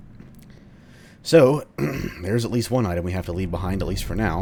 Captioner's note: clears throat